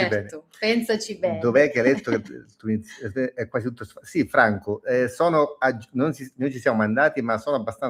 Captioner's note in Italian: schiarire la voce